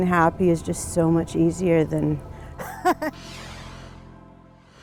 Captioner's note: laughing